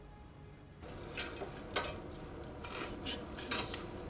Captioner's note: faint clatter